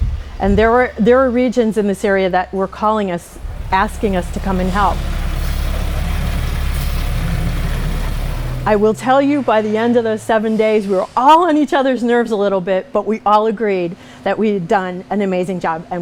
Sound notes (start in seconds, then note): 5.6 truck humming